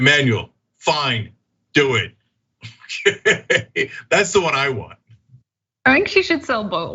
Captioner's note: laugh